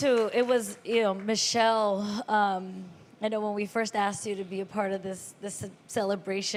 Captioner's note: applause